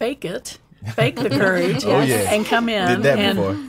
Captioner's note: laughing